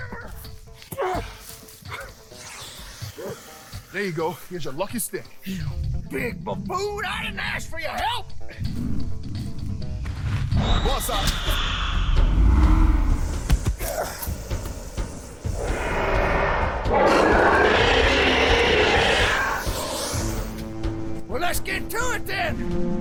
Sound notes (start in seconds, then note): 11.0 whoosh; 13.6 loud thud; 15.6 roar